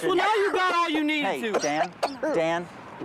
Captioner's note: coughs